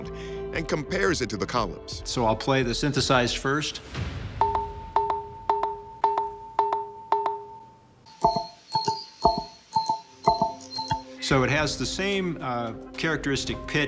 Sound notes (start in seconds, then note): 4.4 notes ringing; 7.9 pillars ringing